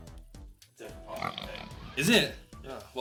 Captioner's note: pig noises